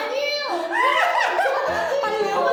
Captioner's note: panicking